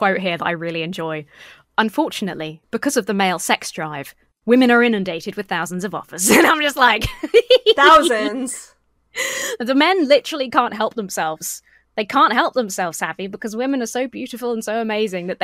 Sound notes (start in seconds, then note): 7.0 laughs